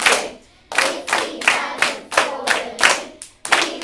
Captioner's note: all rhythmically and clapping